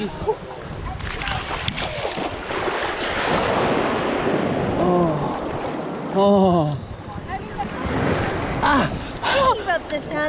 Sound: sound of waves

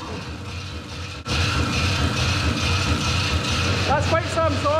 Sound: saw blade cutting

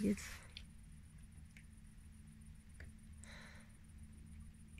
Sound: boat engine noise in the background

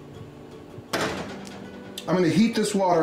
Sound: pot clanging

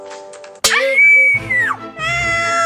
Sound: screams

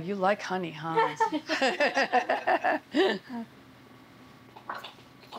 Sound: laughter

